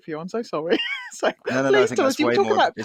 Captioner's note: laughs